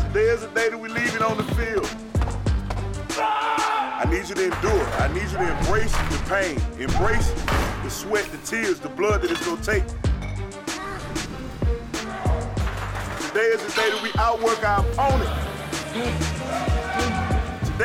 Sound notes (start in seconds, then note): 3.0 athlete yells